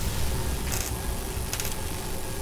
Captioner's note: mild electrocution sounds